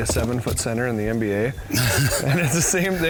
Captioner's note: laughter